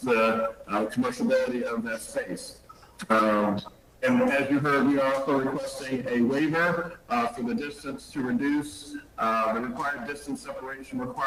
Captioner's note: ~distortion~